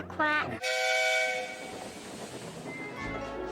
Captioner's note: engine whistles